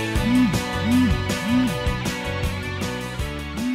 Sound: phone beeps; phone beeps

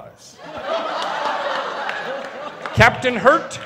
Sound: laughters

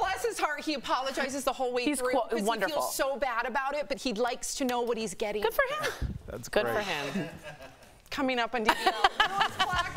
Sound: laughter

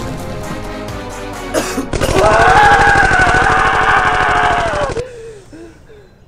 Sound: coughs; rapid firing, screaming; gasps

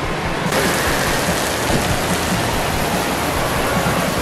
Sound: water splashing

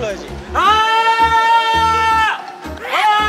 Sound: A loud cry

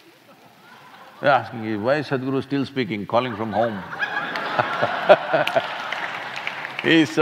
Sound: laughter; laughter

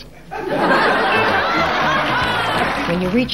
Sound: audience laughing

